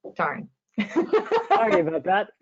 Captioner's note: chuckles